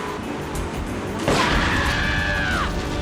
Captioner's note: gun firing; screaming